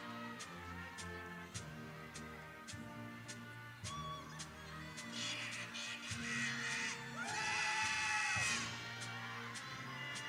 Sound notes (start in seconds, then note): 5.0 horn blowing